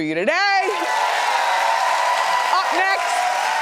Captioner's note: audience cheering